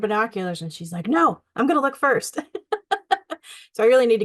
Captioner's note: laughs